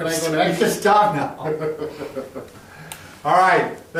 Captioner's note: chuckles